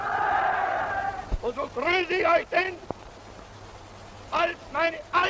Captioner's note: speaks foreign language